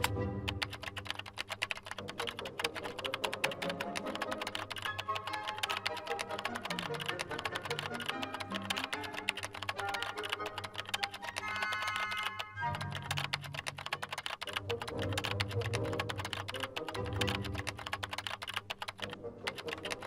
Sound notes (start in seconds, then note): 0.0 dramatic orchestral music; 2.4 keyboard clicking